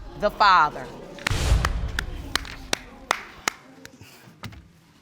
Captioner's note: crowd chatter